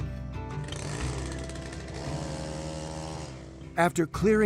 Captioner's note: trimmer buzzing